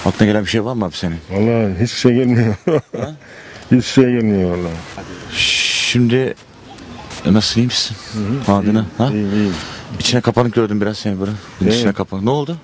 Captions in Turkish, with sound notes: + Akla gelen bir şey var mı senin ? - Vallahi hiç bir şey gelmiyor ( gülme sesi ) - Hiç bir şey gelmiyor vallahi + Şimdi + Nasılsın iyi misin ? - İyiyim - İçine kapanık gördüm seni biraz + İçine kapanık ne oldu ?